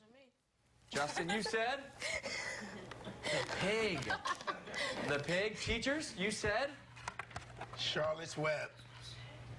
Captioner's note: laughter